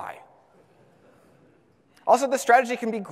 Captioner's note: audience laughs